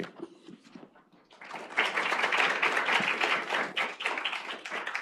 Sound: applause

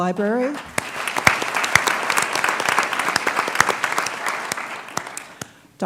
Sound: applause

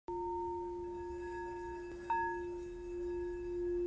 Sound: soft chiming

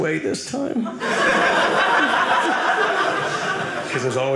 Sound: audience laughing

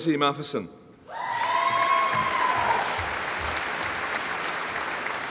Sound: audience applauding

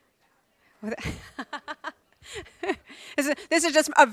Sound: laughs

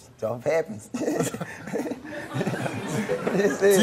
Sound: giggles; audience laughs

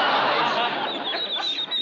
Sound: ducks quacking

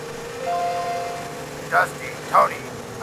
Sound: incoming call

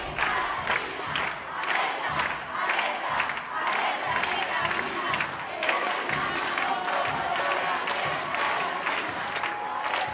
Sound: protest chant

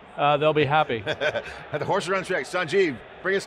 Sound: chuckling

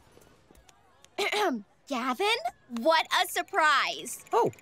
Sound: clearing throat

